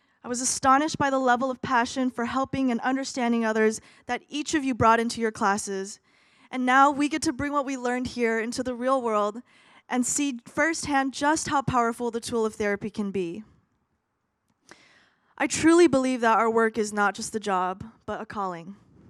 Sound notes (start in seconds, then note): none